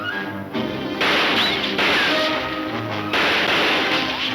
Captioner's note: gunshots banging